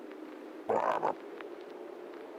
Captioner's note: genuine frog croak